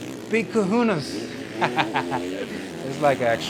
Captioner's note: laughs